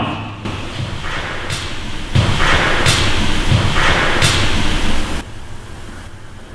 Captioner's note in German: Lauter Knall von irgendwo im Haus